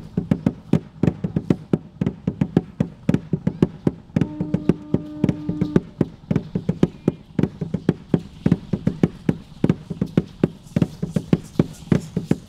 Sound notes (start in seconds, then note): 0.3 drum beating; 6.0 rattles sounding